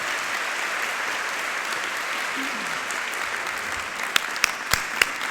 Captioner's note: audience applauding